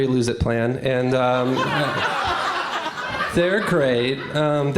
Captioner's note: laughter